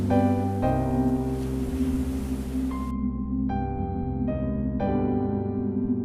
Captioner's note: d onderous electronic sounds